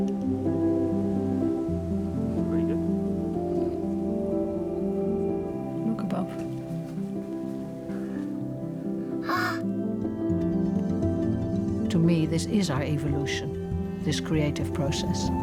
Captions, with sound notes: [music building] Pretty good. Look above. [gasps] To me, this is our evolution, this creative process.